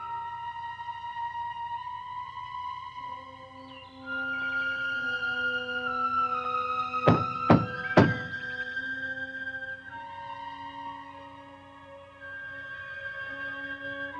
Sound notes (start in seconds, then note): 7.1 fist thudding; 10.4 mysterious music continues